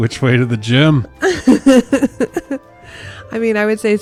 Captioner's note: laughs